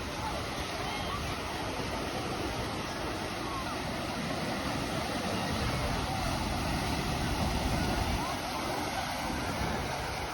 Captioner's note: ocean waves